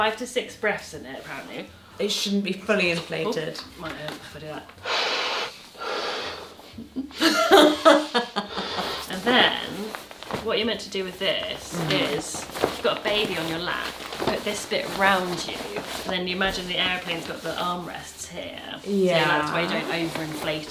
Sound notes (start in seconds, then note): 4.8 air hissing; 6.7 laughing